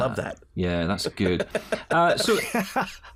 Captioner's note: laughter